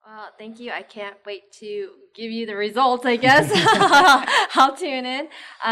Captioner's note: laughs